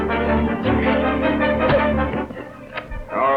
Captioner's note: frenzied music; Parry cries out; punch lands